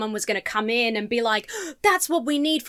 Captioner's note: gasps